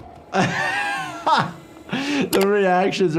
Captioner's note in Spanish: se ríe